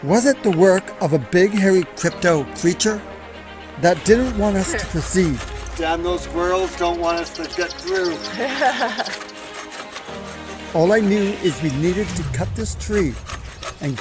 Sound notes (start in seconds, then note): 8.3 woman laughs